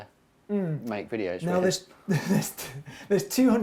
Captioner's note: laughs